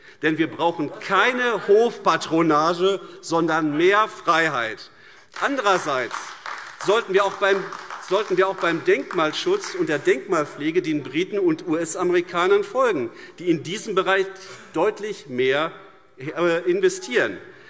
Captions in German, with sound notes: Wir brauchen nämlich keine Hofpatronage, sondern mehr Freiheit. [Beifall AfD] Andererseits sollten wir auch beim Denkmalschutz und bei der Denkmalpflege den Briten und den US-Amerikanern folgen, die in diesem Bereich deutlich mehr investieren;